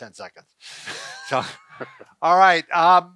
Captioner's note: laughs